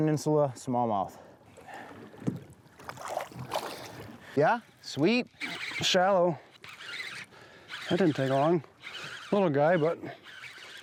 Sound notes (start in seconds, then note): 3.0 water splashes; 7.4 reel whirs